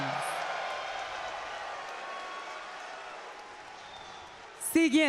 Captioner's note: applause